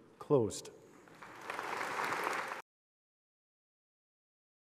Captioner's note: audience applauding